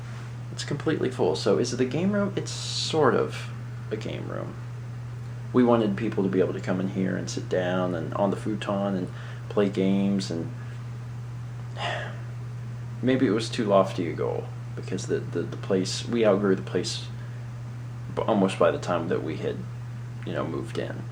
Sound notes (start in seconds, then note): 11.7 sighs